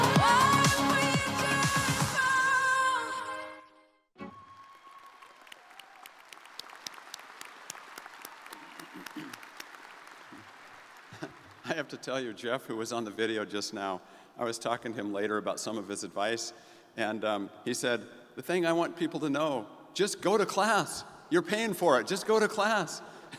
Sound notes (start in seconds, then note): 4.2 crowd cheering; 11.1 chuckles; 23.1 crowd laughs